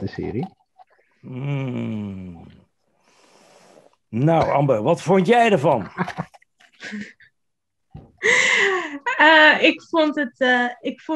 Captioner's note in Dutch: gelach